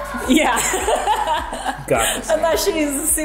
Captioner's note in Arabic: يضحك